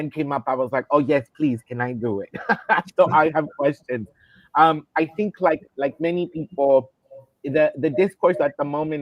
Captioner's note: laughter